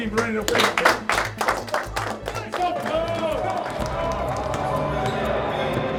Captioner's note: players cheer and clap